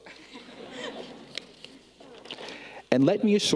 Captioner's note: people laughing